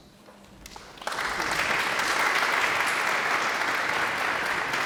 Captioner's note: audience applauds